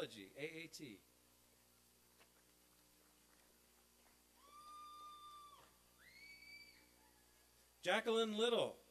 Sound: applause and cheering

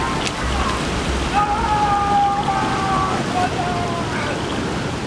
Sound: screaming

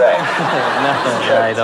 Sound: chuckles

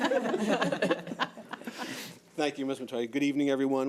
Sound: laughing

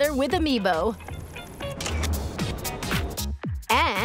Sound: camera shutter snaps

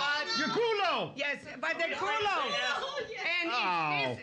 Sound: audience shouting

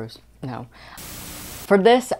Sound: Static

